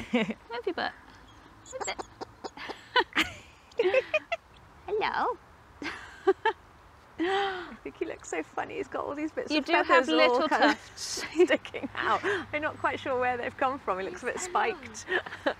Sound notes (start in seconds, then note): 0.3 laughs; 2.5 both laugh; 2.8 owl babbles